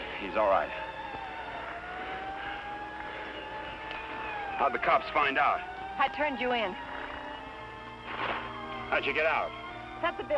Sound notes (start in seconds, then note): 1.7 distant sirens blaring